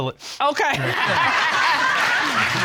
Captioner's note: all laughing